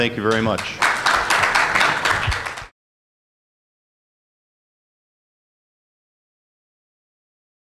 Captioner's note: applause